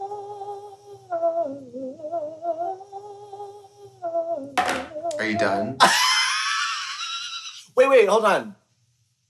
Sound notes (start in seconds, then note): 5.8 Katya laughs